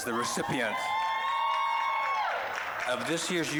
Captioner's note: applause, cheering